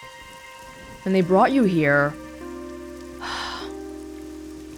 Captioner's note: sighs